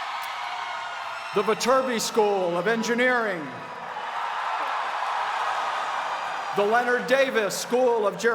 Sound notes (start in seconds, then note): 2.0 cheers and applause